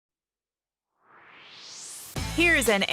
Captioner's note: swoosh